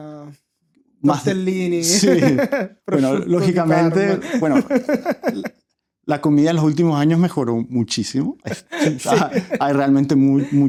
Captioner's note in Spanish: risas